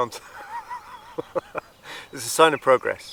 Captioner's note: laughs